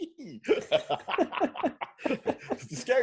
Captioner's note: both laughing